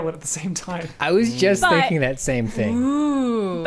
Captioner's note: pat